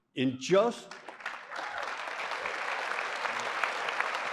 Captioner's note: applause